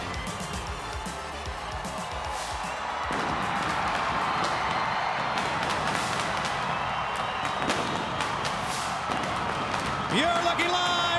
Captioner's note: crowd cheering